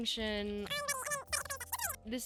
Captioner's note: speed up talking